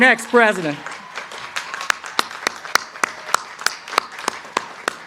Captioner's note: crowd cheering